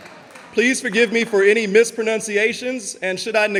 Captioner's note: audience laughing